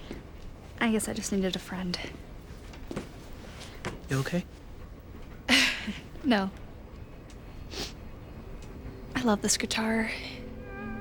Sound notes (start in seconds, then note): 4.7 laughs; 7.2 sniffs again